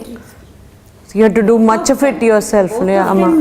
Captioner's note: in Tamil